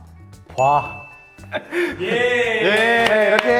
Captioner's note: A round of applause